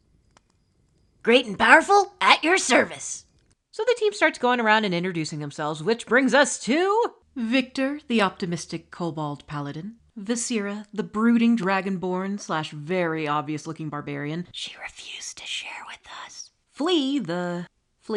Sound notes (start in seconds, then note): 14.5 whispering